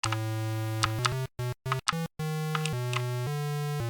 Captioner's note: keyboard clicking